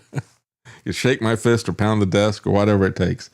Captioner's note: laughs